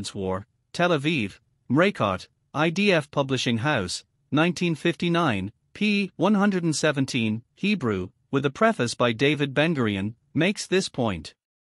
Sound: Hebrew

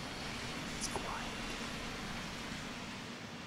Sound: whispers

